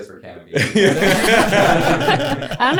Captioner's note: all laughing